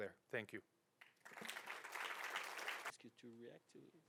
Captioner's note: audience applauding